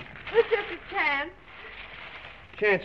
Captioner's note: drawer rattling